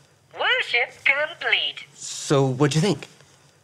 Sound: computer Voice

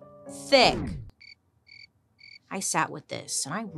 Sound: crickets chirping

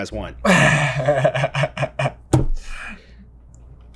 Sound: chuckles

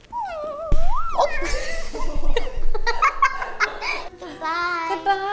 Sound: laughs

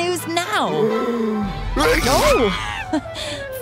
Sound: sneezes

